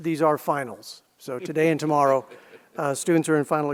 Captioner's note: laughs